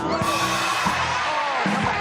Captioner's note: cheering, applause